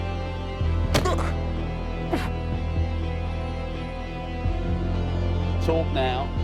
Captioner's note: punch thudding; Will groaning